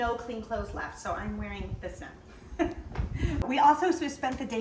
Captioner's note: giggles